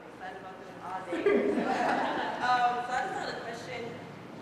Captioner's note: laugh